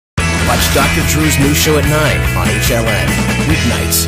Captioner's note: voiceover